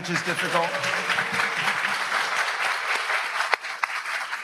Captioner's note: audience applauds